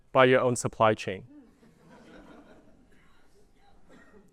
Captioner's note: laughter